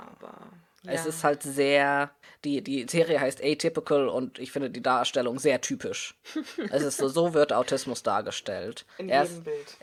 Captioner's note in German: lacht